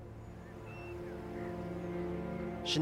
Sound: birds chirping

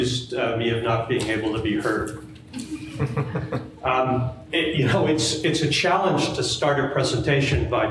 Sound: audience laughs

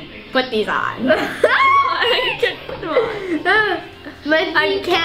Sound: laughing

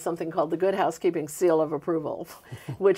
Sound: both laughing

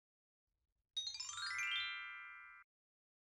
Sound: chime sound

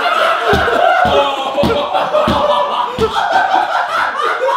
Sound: audience laughing; foot stomping

